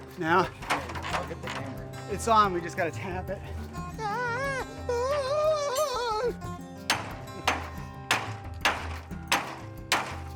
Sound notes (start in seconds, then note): 3.7 shrieking; 6.8 hammer banging